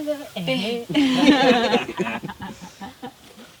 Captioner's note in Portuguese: Risadas